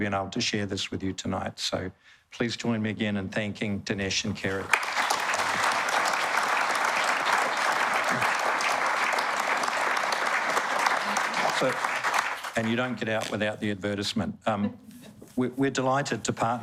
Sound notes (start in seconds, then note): 4.6 applause